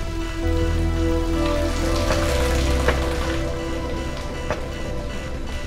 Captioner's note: water pattering